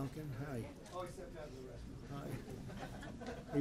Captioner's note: laughter